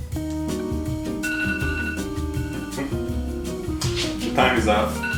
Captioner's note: alarm blaring